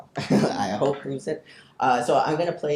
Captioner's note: chuckles